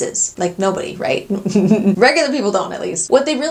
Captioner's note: laughs